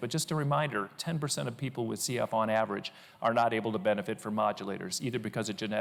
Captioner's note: none